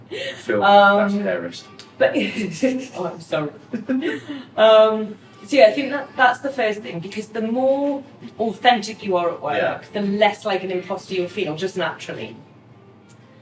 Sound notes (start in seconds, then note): 3.6 laughs